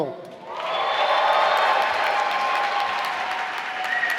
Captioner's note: applause